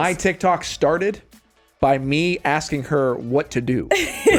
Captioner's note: laughs